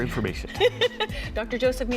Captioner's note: laughing